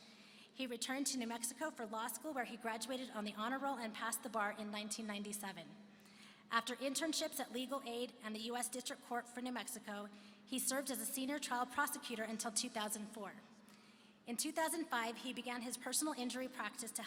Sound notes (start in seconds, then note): none